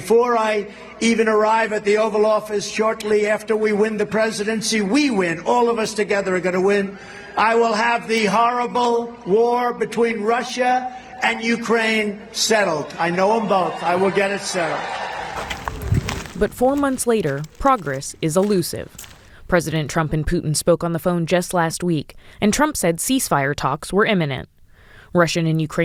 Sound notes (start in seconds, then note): 14.9 cheering